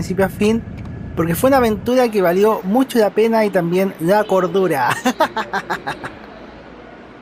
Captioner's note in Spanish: risas